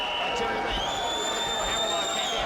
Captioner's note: whistle blowing; fan whistling